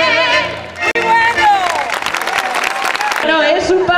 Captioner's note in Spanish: voces muy bueno y aplausos